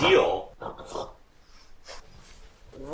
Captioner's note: bear snoring